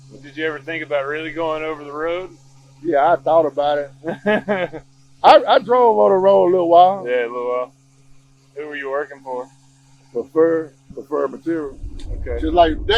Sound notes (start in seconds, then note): 4.0 host laughs